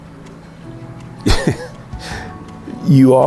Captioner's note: chuckles